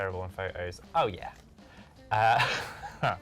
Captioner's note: laughs